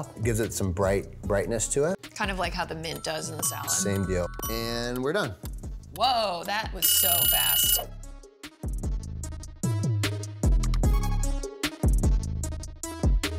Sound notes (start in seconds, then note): 3.2 timer chiming; 6.8 timer buzzing; 9.6 upbeat music